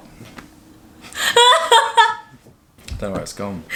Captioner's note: laughing